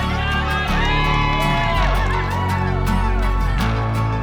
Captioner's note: cheering